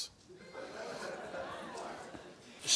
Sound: crowd laughing

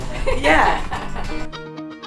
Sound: laughing

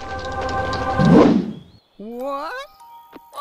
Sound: swoosh

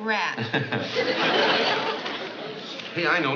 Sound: laughing

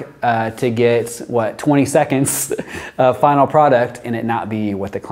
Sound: chuckles

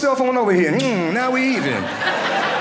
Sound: kiss sound; audience laughing

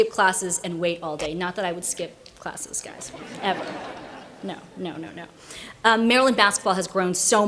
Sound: laughter

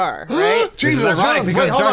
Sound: gasps

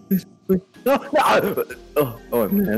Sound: ouchie noise

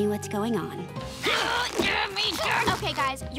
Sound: grunting

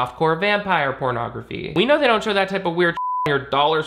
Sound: beep

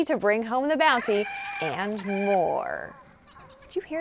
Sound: loud squawking

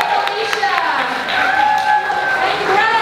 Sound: applause

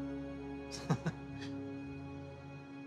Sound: laughs

